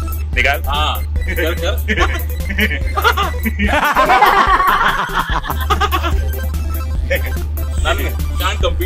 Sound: joker laughing session in progress

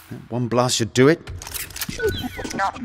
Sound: blaster loaded

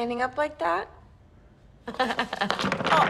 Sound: laughs

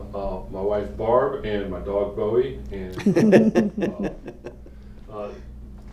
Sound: laughter

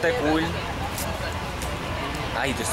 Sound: murmurs in the background

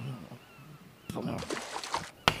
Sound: wood scraping; splash

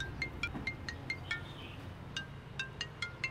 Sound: phone ring

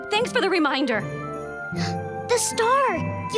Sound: gasps

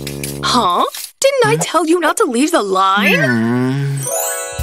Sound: sigh

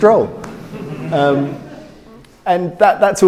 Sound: crowd laughing

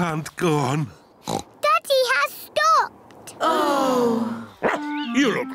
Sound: oinks; all sigh; barks

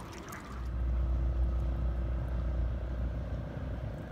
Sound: motor humming

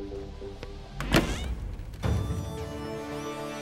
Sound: door closes

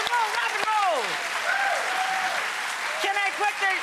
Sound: crowd cheering

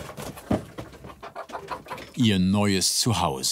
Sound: cackling

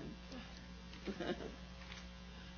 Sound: laughs

